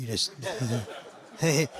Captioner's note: laughing